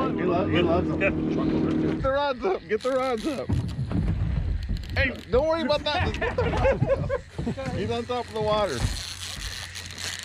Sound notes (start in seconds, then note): 4.4 reel cranking